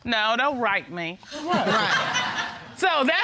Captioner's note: audience laughing